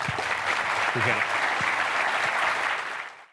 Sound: audience applauding

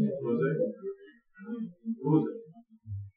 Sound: speaking Farsi

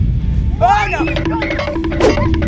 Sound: shouting; timer counting down

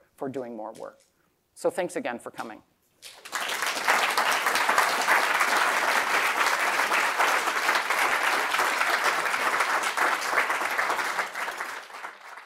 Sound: applause

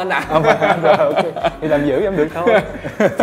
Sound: laugh

